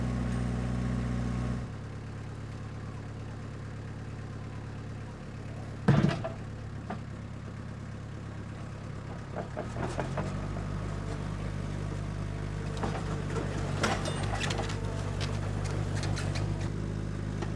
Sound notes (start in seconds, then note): 0.0 vehicle bumping across ground; 0.3 engine running calmly; 6.2 wood hitting against log; 10.5 engine running calmly